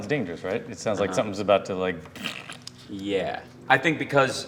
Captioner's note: squelching